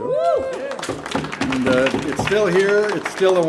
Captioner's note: audience cheer and applaud